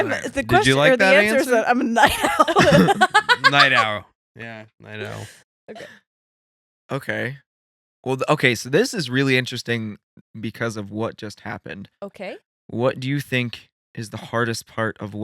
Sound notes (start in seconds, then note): 3.6 laughing